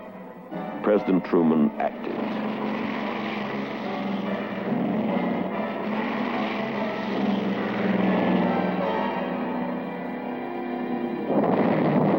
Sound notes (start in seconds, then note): 1.3 aircraft noise; 11.3 explosion